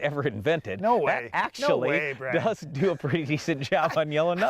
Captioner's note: laughing